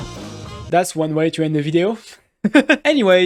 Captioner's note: laughs